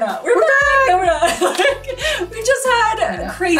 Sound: laughs

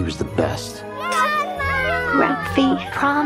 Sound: cheering

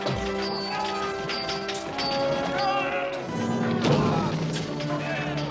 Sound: hitting; yelling; hitting

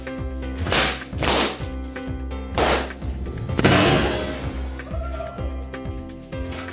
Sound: upbeat music; balloons popping

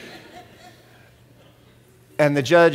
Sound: laughter

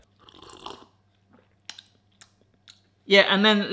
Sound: slurps

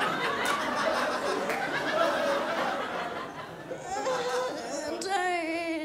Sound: crowd laughs

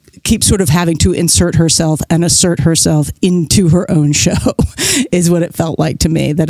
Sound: guffaw

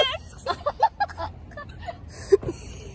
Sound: laughing

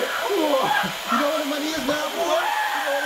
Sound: DRILLING & Screaming

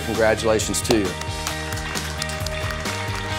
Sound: claps; inspiring music

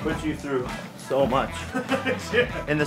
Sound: laughter

